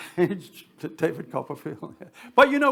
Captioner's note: chuckling